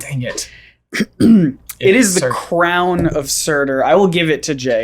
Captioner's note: clears throat